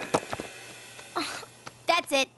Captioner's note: sighs